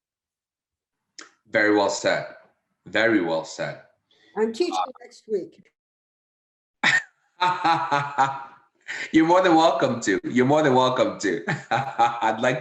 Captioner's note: laughter